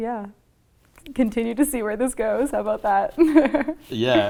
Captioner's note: laughs